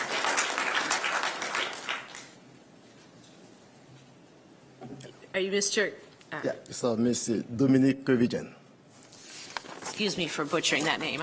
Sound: applause

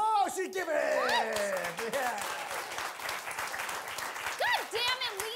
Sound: audience applauding

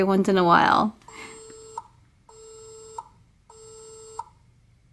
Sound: dial tone

